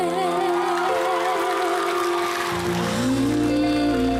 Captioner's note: audience cheering